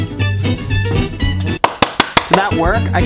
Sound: claps hands together

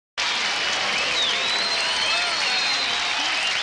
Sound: audience clapping

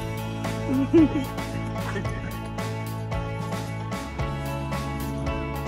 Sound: camera operator laughing

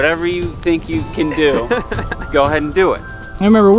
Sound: laughing

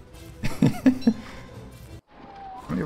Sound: laughs

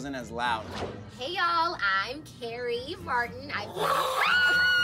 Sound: screams

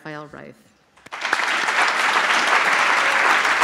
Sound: applause

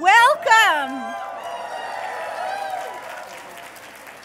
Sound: audience cheers

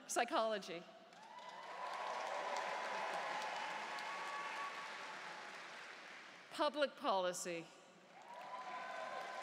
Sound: cheers and Applause; cheers and Applause

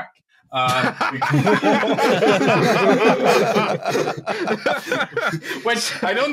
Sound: a lotta laughter

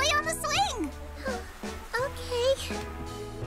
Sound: sighs

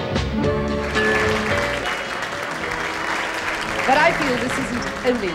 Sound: upbeat music; audience applauding

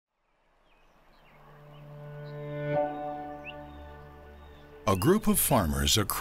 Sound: bird chirping; peaceful music

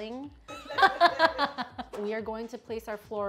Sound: laughs

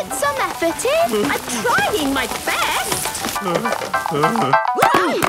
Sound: groaning; exclamations

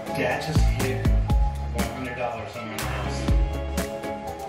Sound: TV playing

